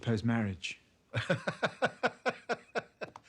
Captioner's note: laughs